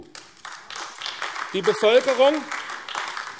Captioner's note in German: Beifall AfD